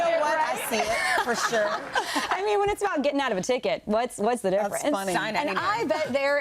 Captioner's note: laughter